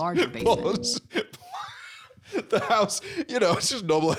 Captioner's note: wheezing